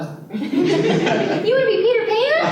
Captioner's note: laughter